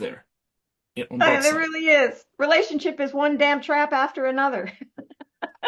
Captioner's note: Rires